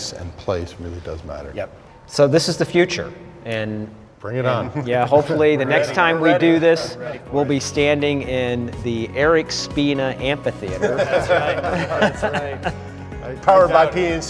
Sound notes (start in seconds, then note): 10.6 laughing